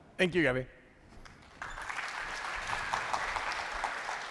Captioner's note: applause